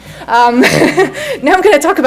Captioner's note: laughs